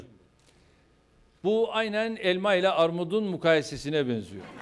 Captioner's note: non-english speech